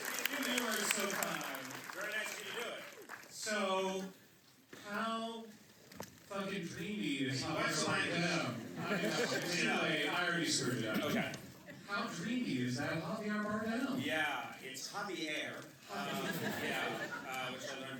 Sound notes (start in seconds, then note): 0.0 applause; 8.6 laughter; 15.9 laughter